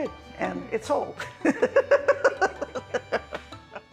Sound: laughter

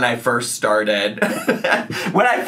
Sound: chuckling

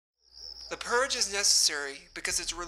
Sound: crickets chirp

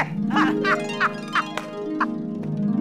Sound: laughing

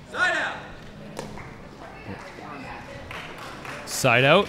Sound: chattering

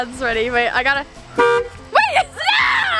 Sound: truck horn

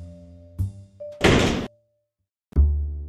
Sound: door slammed

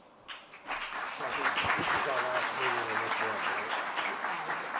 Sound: applause

